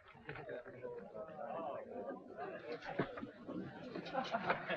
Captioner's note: people chattering